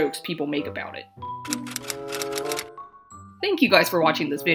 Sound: typewriter sounds

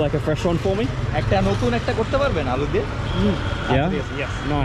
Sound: speaking local language

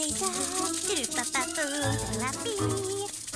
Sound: humming

